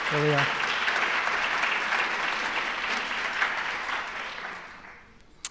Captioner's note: applause